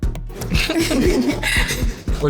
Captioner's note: laughter